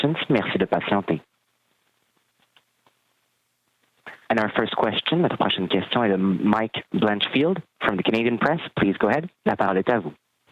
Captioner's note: speaking French